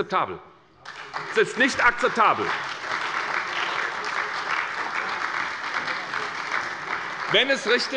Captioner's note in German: Beifall bei der SPD